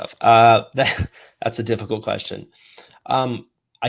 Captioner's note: chuckles